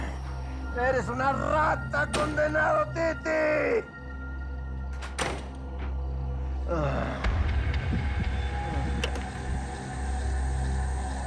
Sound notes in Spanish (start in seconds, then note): 4.9 Ruido al cerrar la puerta